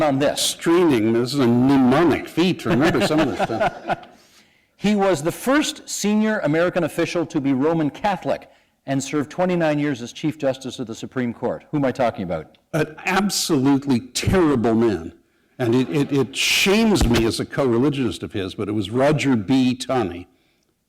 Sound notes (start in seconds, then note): 2.6 laughter